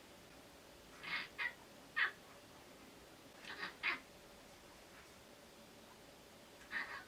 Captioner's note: Tako is also crying like a magpie